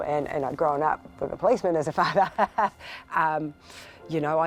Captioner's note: chuckles